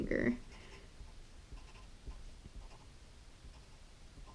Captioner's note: pen scratching